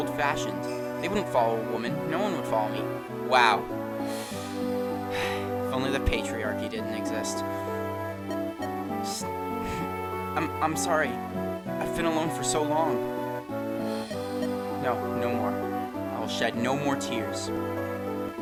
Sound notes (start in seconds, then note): 4.0 sighs; 7.5 sniff